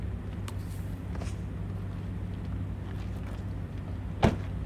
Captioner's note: body thuds; truck door slams